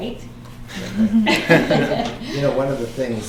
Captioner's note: laughing